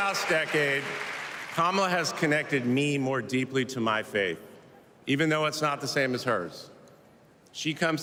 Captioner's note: cheers and applause